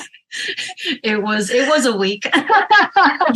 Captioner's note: laughs